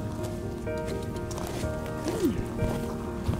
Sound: tongue clicking sounds

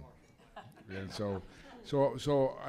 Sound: laughter

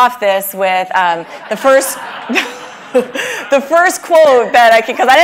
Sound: laugh

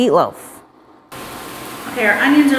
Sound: oil sizzling

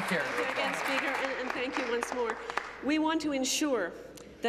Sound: applause

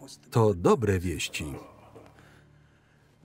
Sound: chuckles

